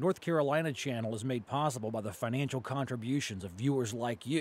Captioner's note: voiceover